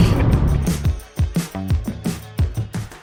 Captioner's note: giggles